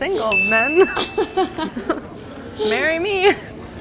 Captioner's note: laughing